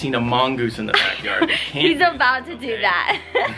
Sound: laughs

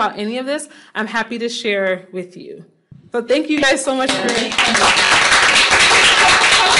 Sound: applause

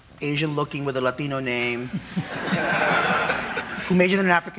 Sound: audience laughing

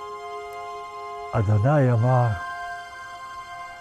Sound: speaking Hebrew

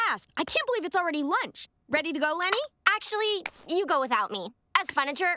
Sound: none

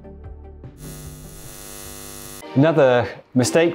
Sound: electricity crackles

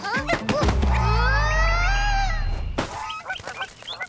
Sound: grunts

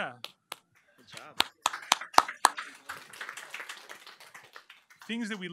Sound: applause

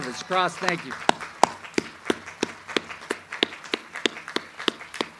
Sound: audience applauds

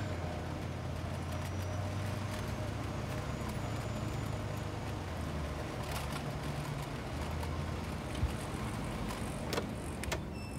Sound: traffic

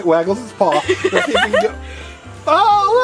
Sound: both laugh

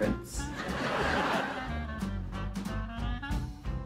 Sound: studio laughter

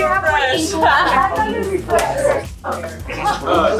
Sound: laughing

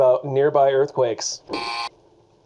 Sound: buzzer buzzes

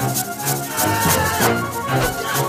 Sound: yelling

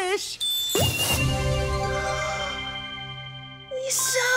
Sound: gasping

